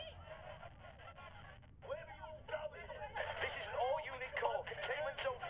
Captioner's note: angry voices in background over walkie talkie